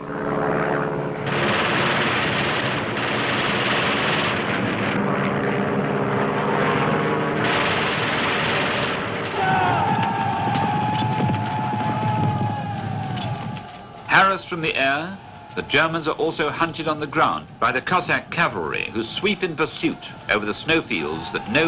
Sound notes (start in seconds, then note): 0.3 engine humming; 1.2 machine gun booming; 9.3 men yelling; 9.4 horse hooves thumping